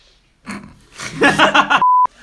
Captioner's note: laughing; gasp